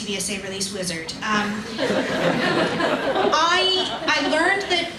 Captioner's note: audience laughs